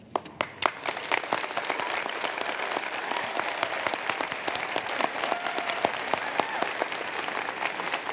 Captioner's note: applause